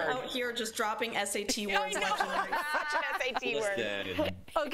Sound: laughter

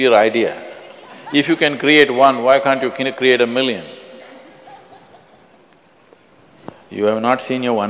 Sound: laughs

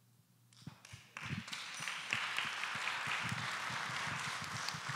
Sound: audience applauding

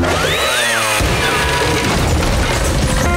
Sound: thudding

